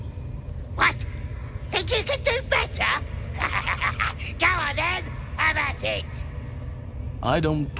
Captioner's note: laughing